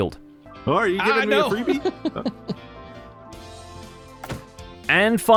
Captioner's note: laughs